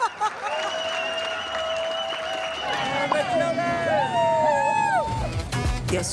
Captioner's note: laughter; cheering